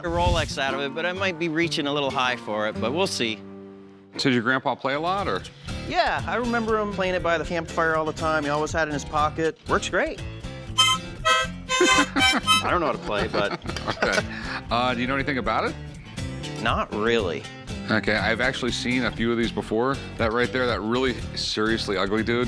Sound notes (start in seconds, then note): 10.7 harmonica playing; 11.3 laughs